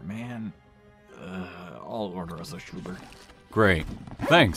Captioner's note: sighs